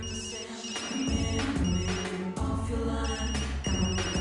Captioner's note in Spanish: Suena el celular